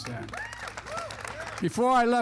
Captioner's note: applause